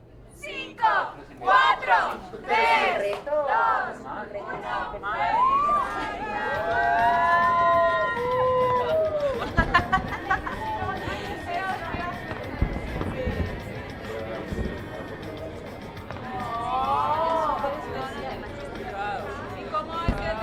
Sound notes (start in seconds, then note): 5.1 cheering and applause; 8.9 voices and laughter